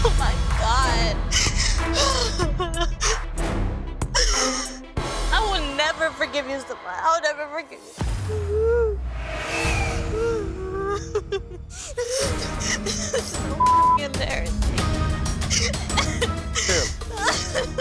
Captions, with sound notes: - Oh my god. - I will never forgive you, I will never forgive you. (sobbing) So (beep) embarrassing.